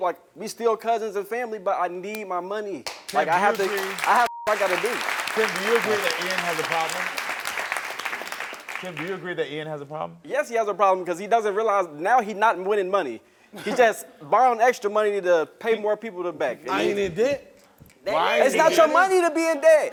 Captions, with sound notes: We still cousins and family, but I need my money. I have (beep) I got to do. - So you agree that Ian has a problem? (audience applauds) Tim, do you agree that Ian has a problem? - Yes, he has a problem because he doesn't realize. Now he not winning money. He just borrowing extra money to pay more people back. - I ain't in debt. - It's not your money to be in debt!